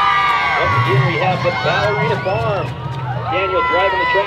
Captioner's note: cheering crowd